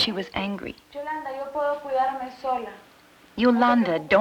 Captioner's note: speaking Spanish